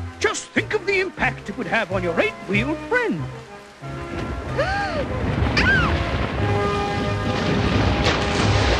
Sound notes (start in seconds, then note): 4.5 gasps; 5.6 screams